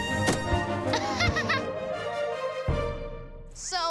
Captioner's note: Aurora laughing